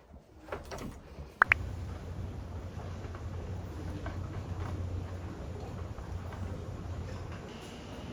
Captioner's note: rumbling early morning train